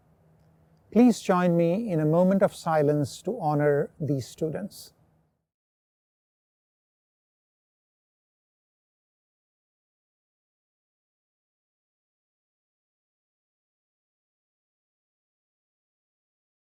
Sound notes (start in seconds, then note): 6.2 silence